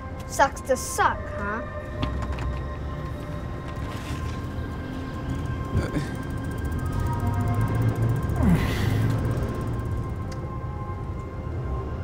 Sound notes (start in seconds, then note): 5.7 Flavio grunts